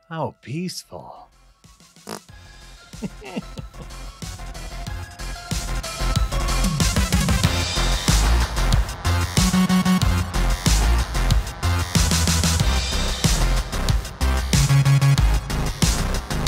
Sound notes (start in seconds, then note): 2.0 fart noise; 3.0 laughter